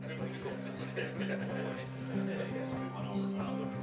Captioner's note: patrons chattering